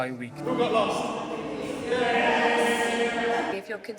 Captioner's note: choir cheering in agreement